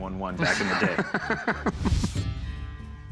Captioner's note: laughter